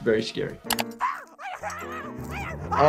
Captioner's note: keyboard clicking